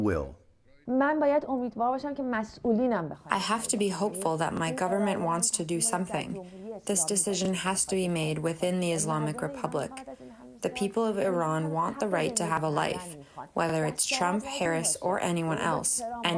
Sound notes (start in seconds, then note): 3.9 through translator